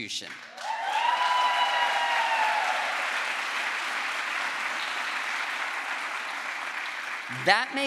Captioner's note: crowd applause